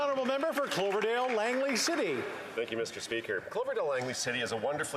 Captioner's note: applause